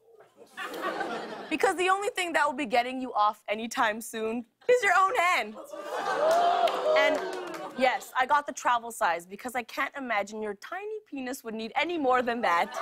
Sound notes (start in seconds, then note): 5.4 audience "ooh"s